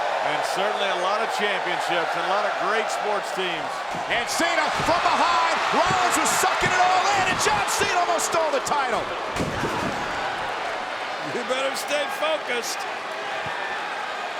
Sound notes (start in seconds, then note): 6.5 hands thudding; 9.7 body thudding